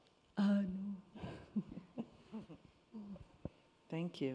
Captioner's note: chuckles